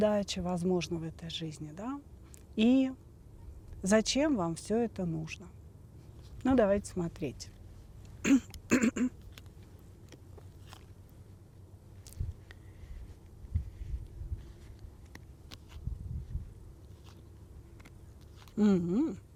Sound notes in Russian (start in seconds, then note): 8.2 кашель; 8.2 откашливается